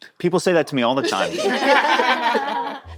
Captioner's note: all laughing